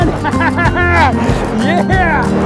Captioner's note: laughing